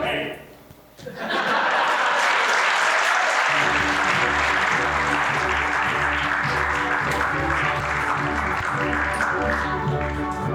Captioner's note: applause